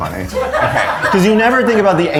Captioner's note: all laughing